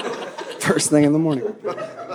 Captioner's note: audience laughing